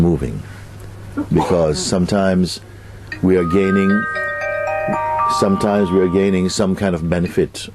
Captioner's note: mobile phone rings